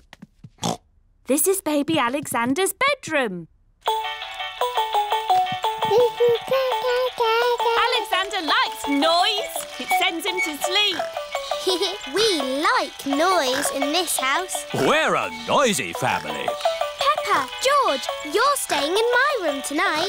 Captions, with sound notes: (OINKS) This is Baby Alexander's bedroom. (MOBILE PLAYING LOUD MUSIC) (COOING) Alexander likes noise! -It sends him to sleep. -(GIGGLES) We like noise in this house. We're a noisy family. Peppa, George, you're staying in my room tonight.